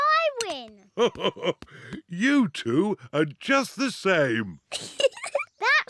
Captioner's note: laughs; giggling